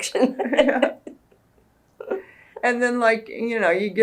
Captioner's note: laughs